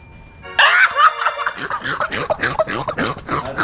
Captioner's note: laughing